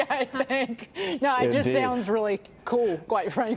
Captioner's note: laughter